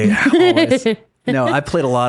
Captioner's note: laughing